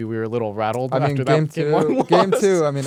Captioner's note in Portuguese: risos